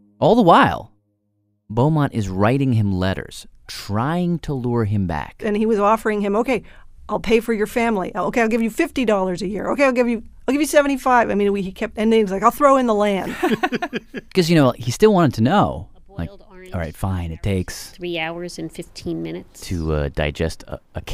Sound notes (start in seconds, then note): 13.2 laughs